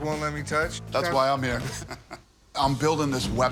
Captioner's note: laughs